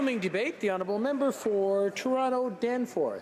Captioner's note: some Applause